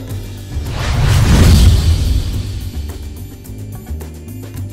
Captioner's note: logo swooshing